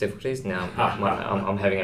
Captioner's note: laughs